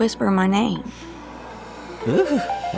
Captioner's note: creepy voice whispers "Charlene"